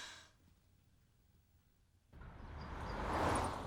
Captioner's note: sighs